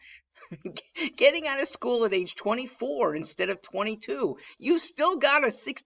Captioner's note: chuckling